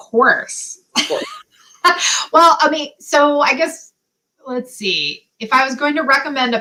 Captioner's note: laughter